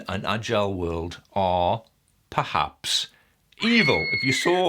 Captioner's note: child scream